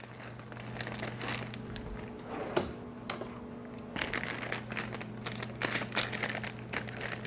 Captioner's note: packet crinkles